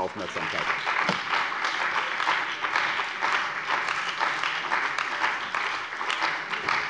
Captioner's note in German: Beifall bei der CDU und dem BÜNDNIS 90/DIE GRÜNEN